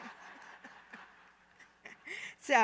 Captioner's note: laughter